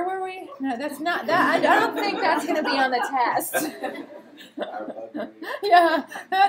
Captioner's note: laughter